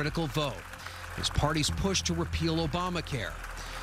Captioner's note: applause